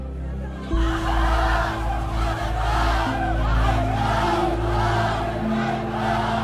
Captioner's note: people shouting and chanting